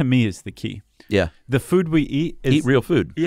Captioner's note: voiceover